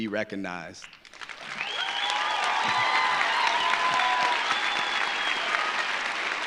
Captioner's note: audience applauding; audience cheering